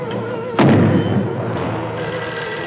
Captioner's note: telephone Rings